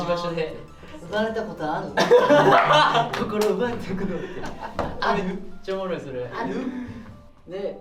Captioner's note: laughs